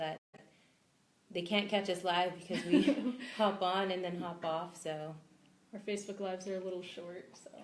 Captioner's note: both laugh